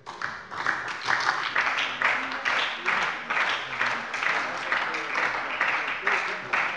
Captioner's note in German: Beifall bei der SPD